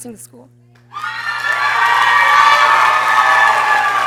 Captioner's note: people cheering